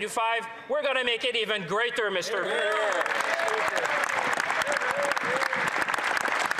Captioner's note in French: voix de l'interprète